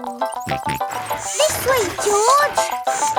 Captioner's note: george snorts